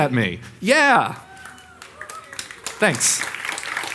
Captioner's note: audience applauding